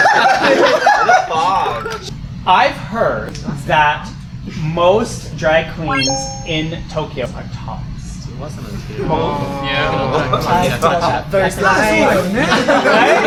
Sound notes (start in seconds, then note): 8.6 murmuring